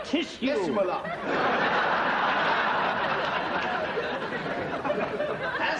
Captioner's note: audience laughter